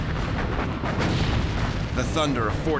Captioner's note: explosions; gunfire